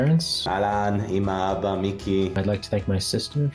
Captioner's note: non-english speech